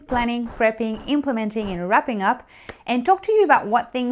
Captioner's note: air whooshing